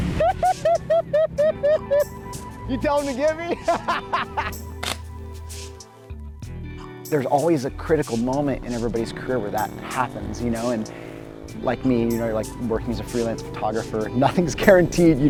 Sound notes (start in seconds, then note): 0.1 videographer laughing; 0.1 water splashing; 3.2 laughing; 4.8 camera shuttering